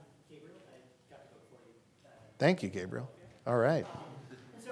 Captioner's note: voice muffled